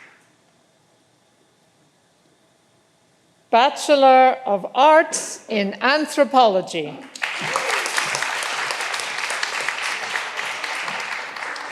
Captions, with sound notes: Bachelor of Arts in Anthropology. (all applauding)